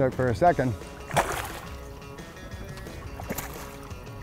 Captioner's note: water splashes